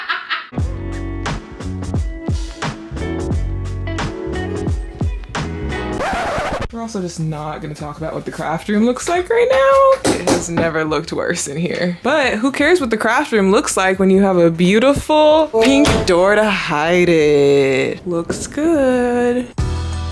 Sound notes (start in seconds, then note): 0.0 laughs; 0.5 relaxing R&B music; 5.9 record skipping; 19.9 relaxing R&B music